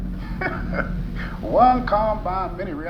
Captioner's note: laughs